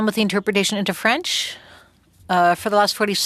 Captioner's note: speaking French